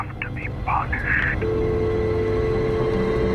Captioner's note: dial tone